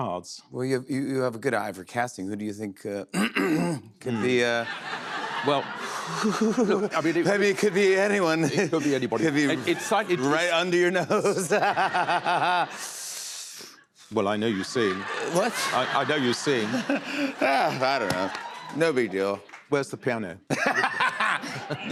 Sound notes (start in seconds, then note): 3.1 clears throat loudly; 11.2 chuckles; 20.6 laughs